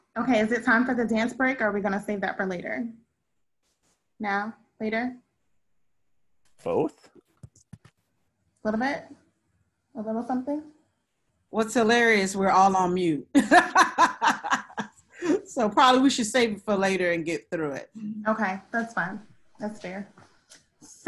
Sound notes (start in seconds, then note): 13.4 laughing